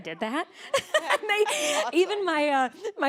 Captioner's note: laughing